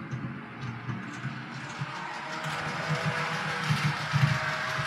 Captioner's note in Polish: Aplauz